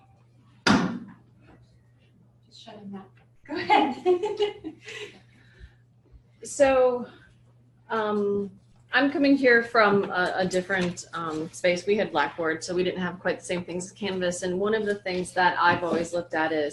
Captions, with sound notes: (door closing) Go ahead! (laughter) So, I'm coming here from a different space. We had blackboard so we didn't have quite same things as Canvas and one of the things that I've always looked at is,